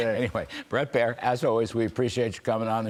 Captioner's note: laughter